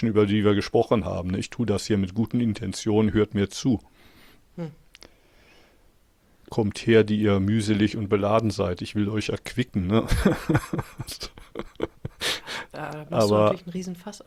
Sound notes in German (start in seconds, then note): 10.0 gelächter